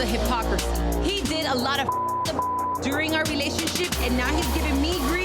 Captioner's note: beep